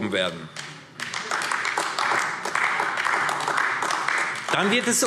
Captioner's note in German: Beifall AfD